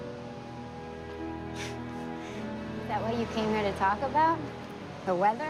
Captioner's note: laughs